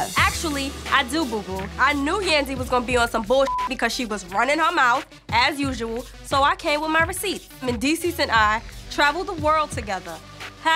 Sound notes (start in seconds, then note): 3.4 beep